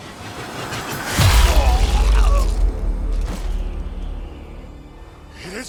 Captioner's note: visceral impact; groans